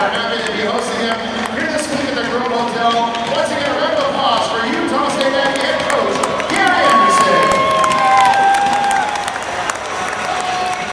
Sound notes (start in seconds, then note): 7.8 cheering and clapping